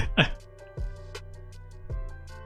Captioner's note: laughs